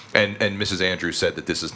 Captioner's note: none